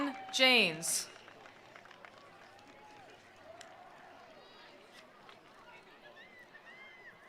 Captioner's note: attendees cheering; attendees applauding